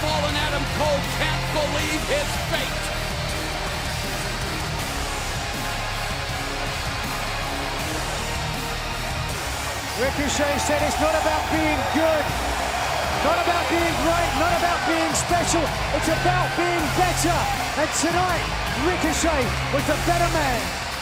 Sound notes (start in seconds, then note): 7.3 cheers and applause